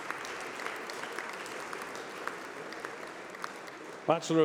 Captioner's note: applause